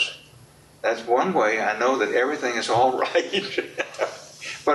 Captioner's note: laughs